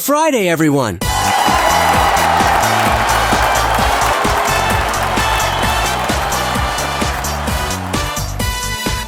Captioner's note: crowd cheering